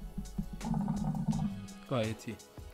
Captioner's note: hookah sound